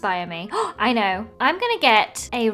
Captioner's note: gasps